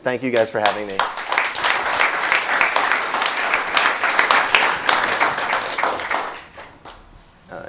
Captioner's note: clapping